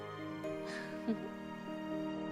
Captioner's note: laughs